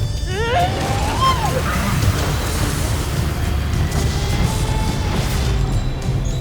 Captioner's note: growls; infernal whoosh-crackle; screams; powerful blast-crackle; powerful whoosh-crackle